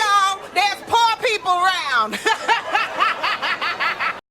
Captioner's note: laughing